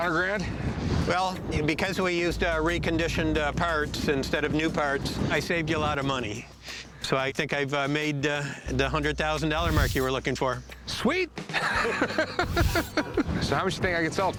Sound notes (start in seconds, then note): 11.5 laughs